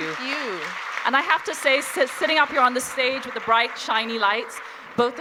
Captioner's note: cheers and applause